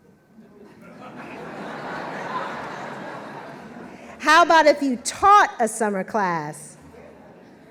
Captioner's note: laughter